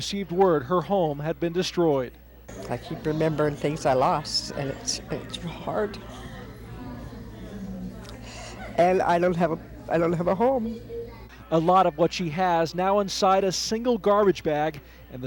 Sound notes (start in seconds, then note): 7.8 breathing deeply